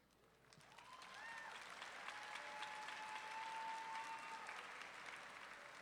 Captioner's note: audience clapping and cheering